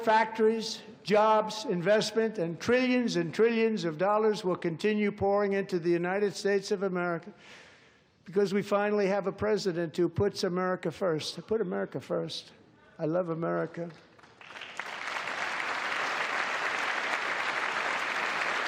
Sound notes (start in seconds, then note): 6.4 applause